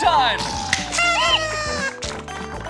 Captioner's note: party horn and balloon sounds